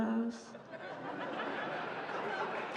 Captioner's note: laughter; applause